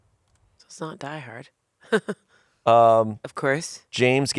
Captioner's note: laughs